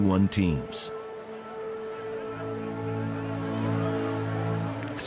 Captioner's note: crowd buzzing